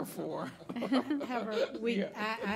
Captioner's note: laughing